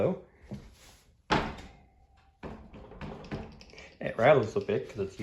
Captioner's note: rapid tapping; thunk